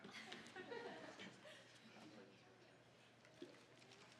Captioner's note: scattered laughing